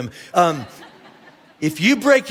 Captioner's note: congregation laughing